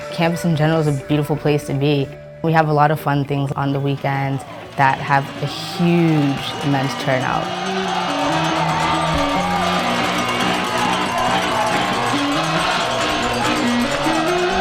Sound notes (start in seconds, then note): 5.7 crowd chanting; 5.7 electronic music